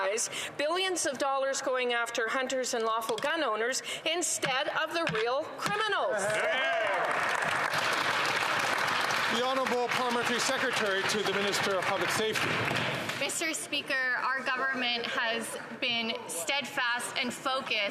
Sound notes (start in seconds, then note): 9.3 some Applause